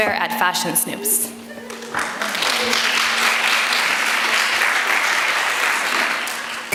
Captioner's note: applause